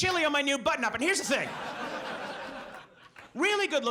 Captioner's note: audience laughs